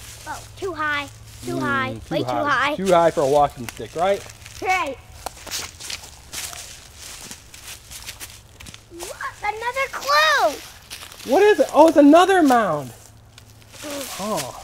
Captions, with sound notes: - Too high, too high. Too high. - [Voiceover] Too high for a walking stick, right? - Right. (leaves rustle) Another clue! - [Voiceover] Oh it's another mound!